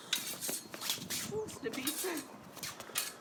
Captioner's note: swords clanking